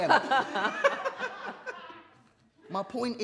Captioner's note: others laugh